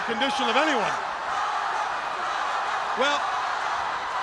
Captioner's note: crowd cheering